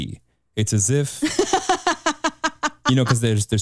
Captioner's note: chuckles